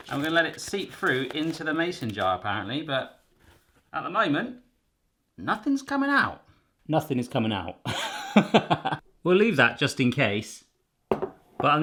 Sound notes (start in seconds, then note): 7.9 laughs